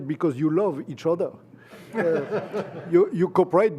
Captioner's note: laughter